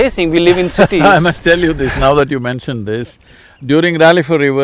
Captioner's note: laughs